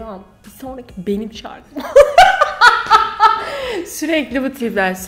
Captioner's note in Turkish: hahahah